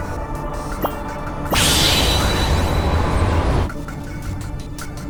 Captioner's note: whirlwind